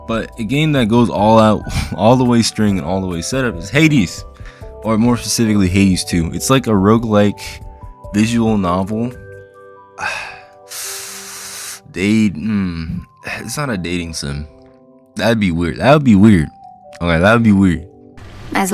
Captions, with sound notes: But a game that goes all the way string and setup is Hades! Or more specifically Hades II It’s like a roguelike, visual novel. (sigh) Dat- hmm. It's not a dating sim, that’d be weird, that’d be weird! Ok that'd be weird.